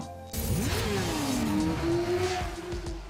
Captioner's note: bike engine revs; relaxed music